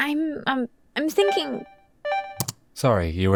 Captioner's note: notification chimes